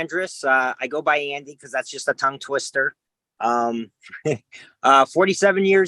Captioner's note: laughs